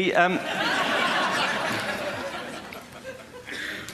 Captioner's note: laughter